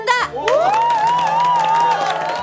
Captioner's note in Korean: 환호